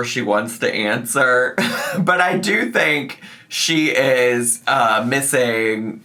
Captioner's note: laughs